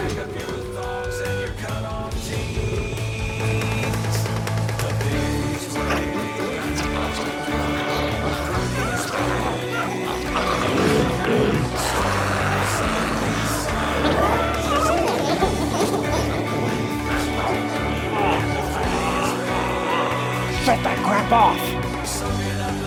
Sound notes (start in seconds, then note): 7.2 glowzies growling